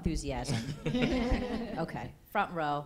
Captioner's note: laughter